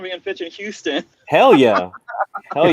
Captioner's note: laughing